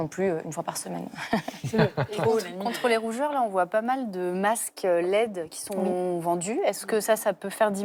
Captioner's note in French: rires